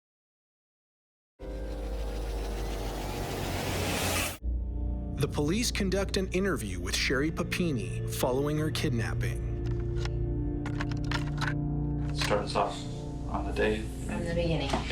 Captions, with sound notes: The police conduct an interview with Sherri Papini following her kidnapping. [clicking] Start us off on the day-- From the beginning.